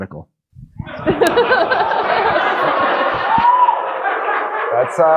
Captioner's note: audience laughing